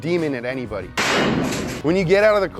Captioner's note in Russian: выстрел из пистолета